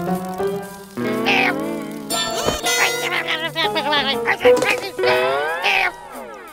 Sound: grumbling

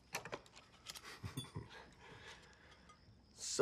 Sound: chuckles

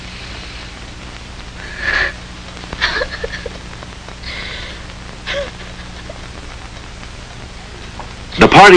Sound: pitiful sobbing

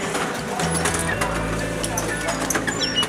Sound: creak of ticket barriers opening and closing all around

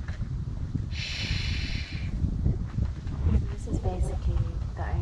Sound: shushes

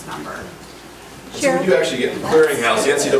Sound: overlapping chattering

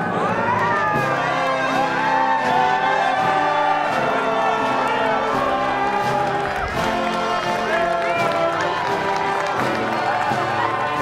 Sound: applause

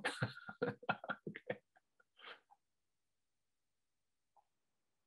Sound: laughs

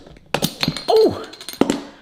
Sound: bottle opens

